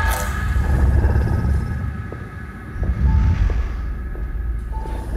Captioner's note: reptilian grumbling